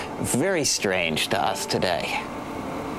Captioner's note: English accent